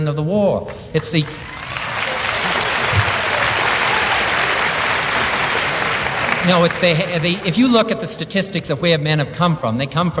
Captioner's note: applause